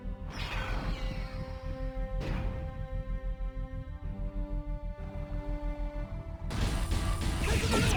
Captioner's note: explosion